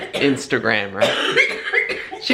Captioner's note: coughing